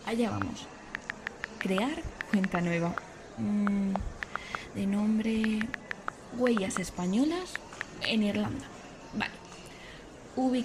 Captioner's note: typing